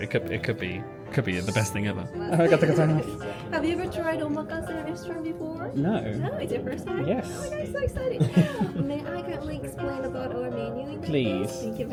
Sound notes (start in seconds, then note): 2.2 speaks Japanese